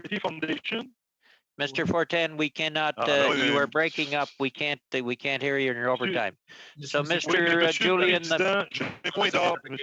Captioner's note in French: voix de l'interprète